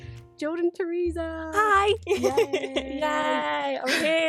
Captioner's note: laughs